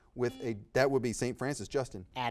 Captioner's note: buzzer beeping